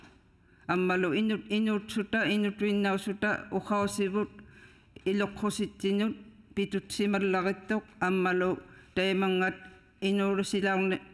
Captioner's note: speaking inuktitut